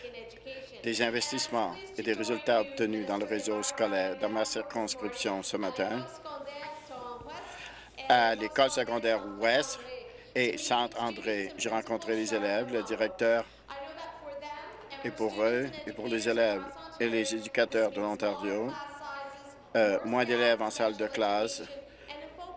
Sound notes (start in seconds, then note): 0.0 speaking in French; 11.0 speaking in French; 14.6 speaking in English